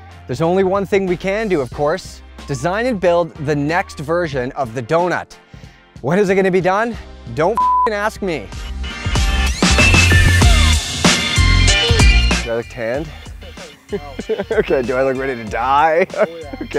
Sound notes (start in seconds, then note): 7.5 beep; 8.8 upbeat music